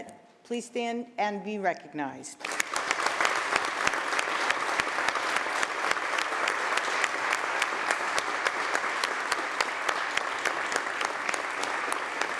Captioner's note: applause